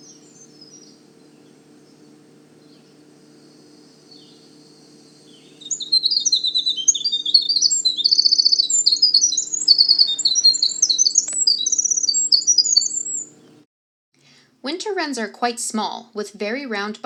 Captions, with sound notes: [short pause] [Winter wren singing] Winter wrens are quite small with very round